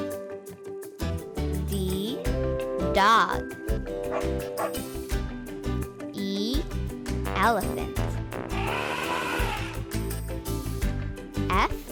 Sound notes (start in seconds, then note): 4.5 dog barks; 8.4 elephant trumpet